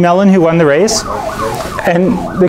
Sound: car alarm

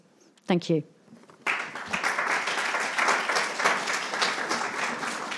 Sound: attendees applauding

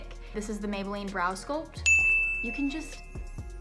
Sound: bell dings

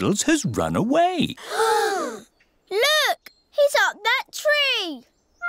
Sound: all gasp

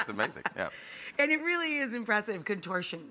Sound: Rachael laughs

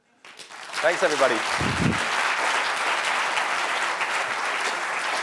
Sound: applause

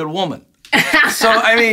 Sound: laughs

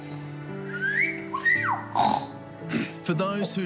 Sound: whistling and grunting

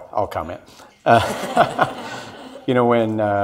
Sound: audience laughs

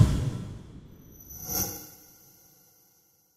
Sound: whoosh

